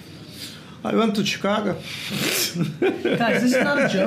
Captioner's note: laughs